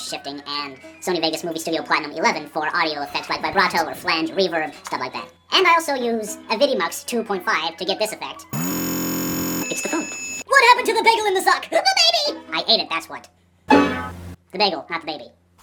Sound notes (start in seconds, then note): 8.5 glitchy timpani/phone ringing sounds